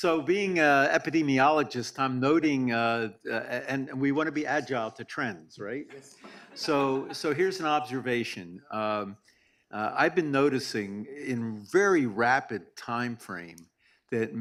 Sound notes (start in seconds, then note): 6.0 audience laughs